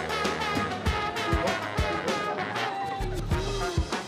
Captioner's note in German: Stimmengewirr